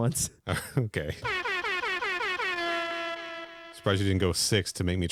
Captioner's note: airhorns sfx